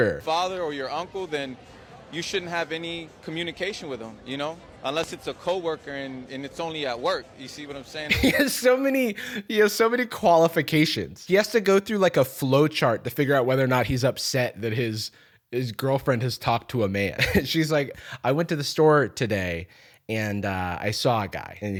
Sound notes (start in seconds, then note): 8.1 laughing